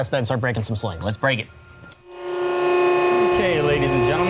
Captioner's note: machine whirring